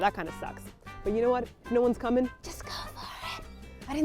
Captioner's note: whispers